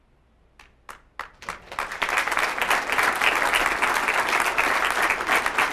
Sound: audience applauding

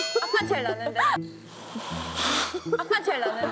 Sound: the sound of air

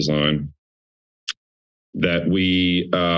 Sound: clicks tongue

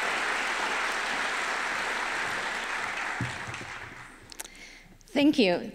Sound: applause

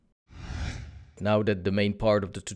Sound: whooshing

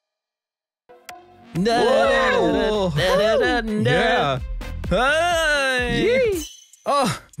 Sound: cheers

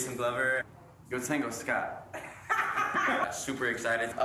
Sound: laughter

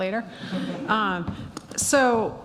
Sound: laughing

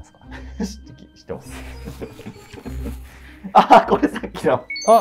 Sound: laughing

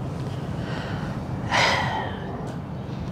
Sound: sigh

